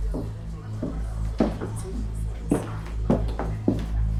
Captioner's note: footsteps tapping